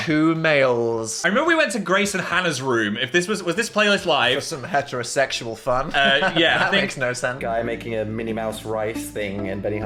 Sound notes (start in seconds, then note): 5.8 laughs